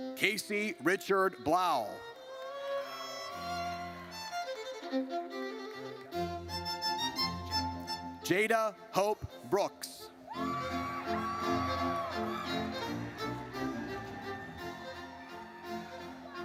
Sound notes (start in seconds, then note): 2.7 audience cheers; 10.3 audience cheers